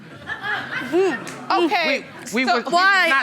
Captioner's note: audience laughing